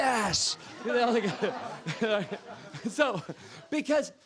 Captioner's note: laughter